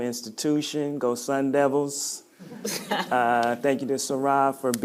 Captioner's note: laughing